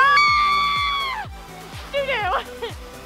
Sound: girls scream

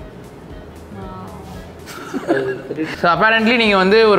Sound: laughs

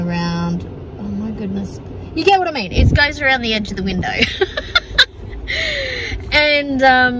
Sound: laughs

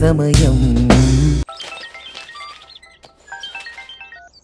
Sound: phone ringing

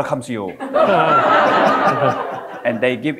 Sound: audience laughing

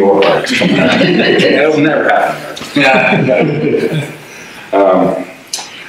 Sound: audience laughter

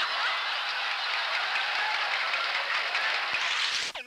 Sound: laughter

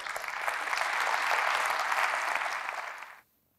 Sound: applause

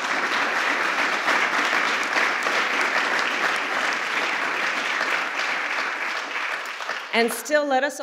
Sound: applause

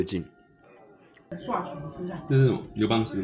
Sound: Taiwanese

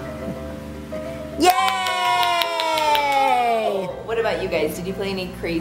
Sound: cheering

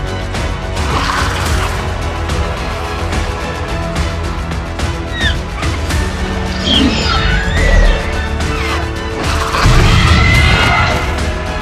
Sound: dilophosaurus and Raptor Sounds

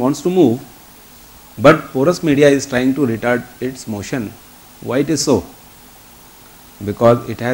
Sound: distortion

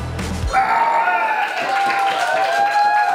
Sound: grunts; crowd whoops and claps

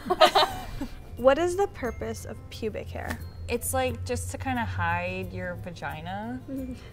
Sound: laughter; laughter

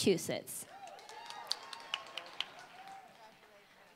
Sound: applause

